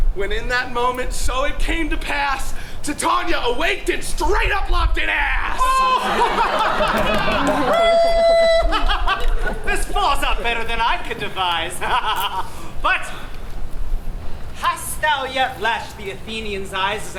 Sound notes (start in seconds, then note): 5.6 Oberon laughs; 5.6 audience laughs; 12.4 laughs